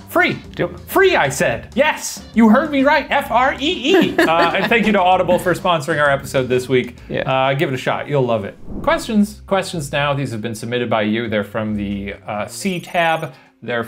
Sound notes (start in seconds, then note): 3.8 laughing